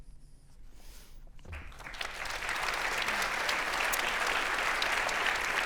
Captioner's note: audience applauding